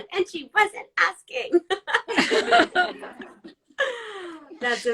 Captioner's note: all laugh